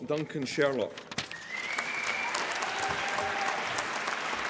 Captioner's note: applause